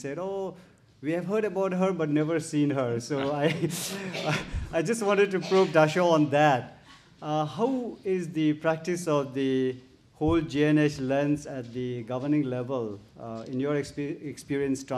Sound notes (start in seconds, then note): 3.1 chuckles